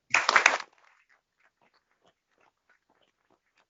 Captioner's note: applause